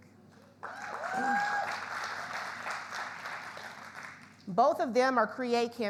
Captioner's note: audience applauds; audience cheers